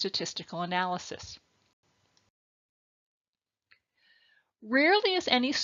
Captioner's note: silence